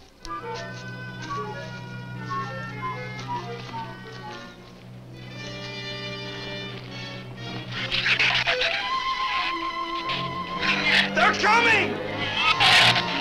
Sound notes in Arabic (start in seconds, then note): 0.1 موسيقى أوركسترالية مشوقة; 7.0 ثرثرة الزبابة